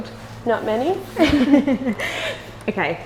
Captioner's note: both laugh